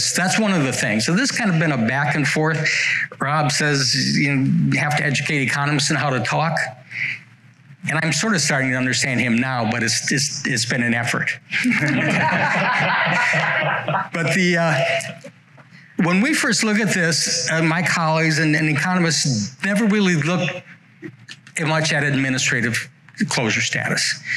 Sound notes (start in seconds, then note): 15.0 laughter